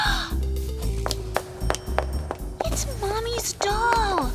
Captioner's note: gasps